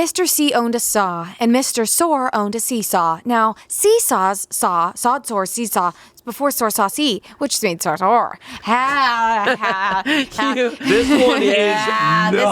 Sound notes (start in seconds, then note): 10.8 grumbles